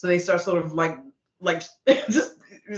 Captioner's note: chuckling